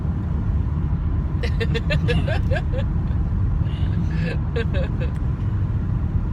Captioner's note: laughing